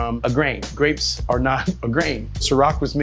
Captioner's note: laughs